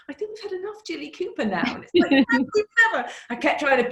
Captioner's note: laughs